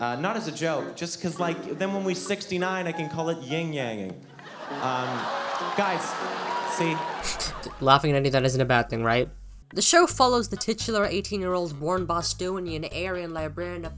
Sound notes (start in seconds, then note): 4.5 guffaws of repulsion and intrigue; 4.7 guffaws of repulsion and intrigue mixed with clapping and cheering; 5.0 guffaws of repulsion and intrigue; 7.2 exhale then jolt